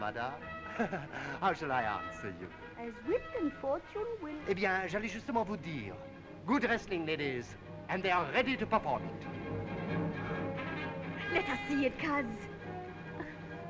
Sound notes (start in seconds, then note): 4.7 speaking in foreign language